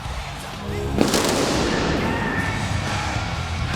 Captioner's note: explosion blasting; energetic rock music